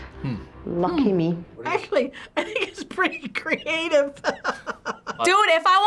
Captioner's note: laughs